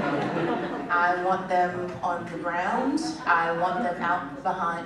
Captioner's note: laughter